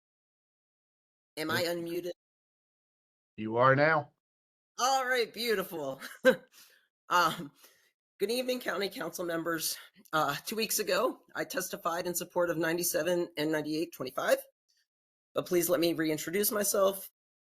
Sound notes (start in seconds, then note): 6.4 chuckles